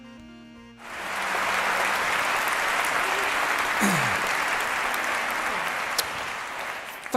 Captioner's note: تصفيق